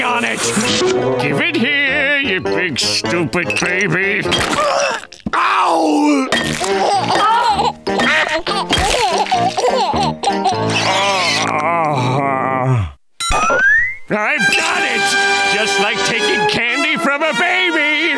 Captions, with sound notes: Give it here, you big stupid baby! Ow! [laughing] [laughing] [groaning] I've got it! Just like taking candy from a baby!